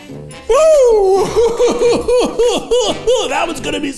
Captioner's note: coughing